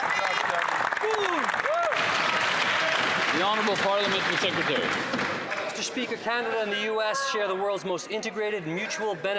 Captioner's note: some Applause